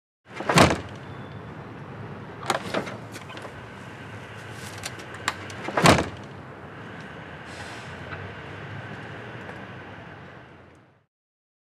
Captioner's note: door clicking